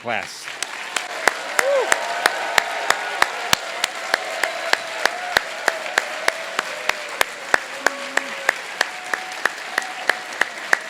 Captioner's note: applause